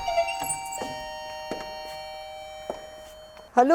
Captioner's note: doors rattle, doorbell